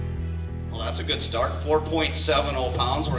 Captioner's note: voiceover